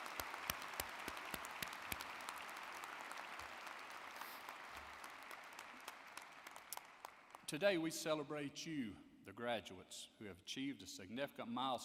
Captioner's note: applause